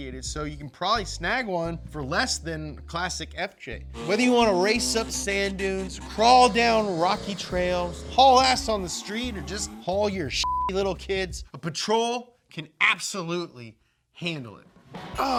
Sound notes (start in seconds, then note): 10.4 beep